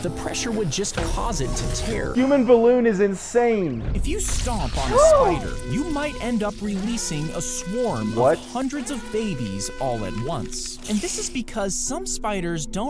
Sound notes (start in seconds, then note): 5.0 both gasping